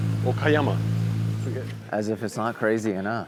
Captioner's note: men speaking Japanese